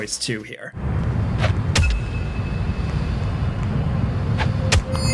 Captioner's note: wind whooshing; blows thudding; gun blasting